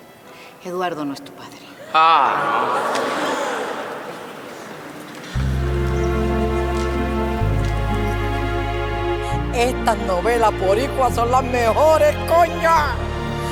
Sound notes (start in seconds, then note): 3.4 people shout